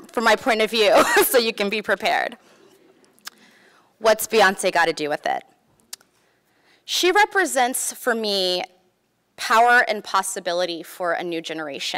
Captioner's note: laughs